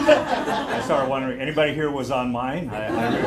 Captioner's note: laughter